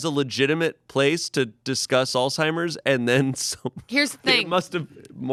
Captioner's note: laughs